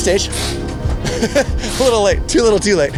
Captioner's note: laughs